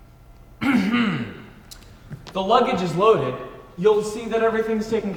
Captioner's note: clears throat